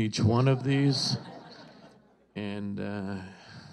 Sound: audience laughs

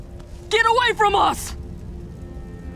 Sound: shouting; melancholy music

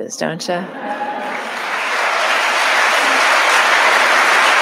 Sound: audience applauding

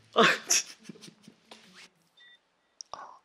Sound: no! laughing

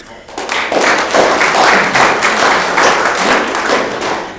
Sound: audience clapping

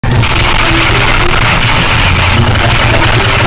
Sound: intense typing

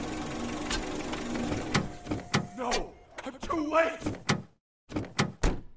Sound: car doors open then close

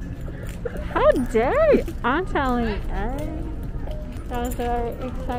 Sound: laughs

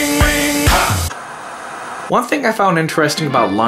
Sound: upbeat music; static hissing

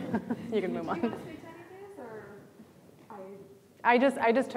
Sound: faintly speaking

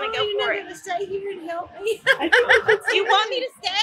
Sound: laughing

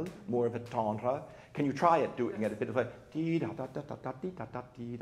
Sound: imitates brisk melody

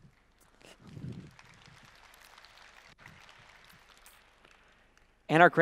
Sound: applause

